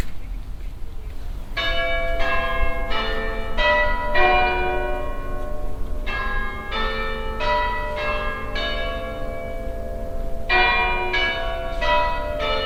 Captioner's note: bell chimes